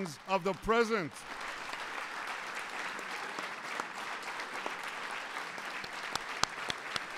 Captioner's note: applause